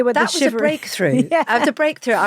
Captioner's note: laughs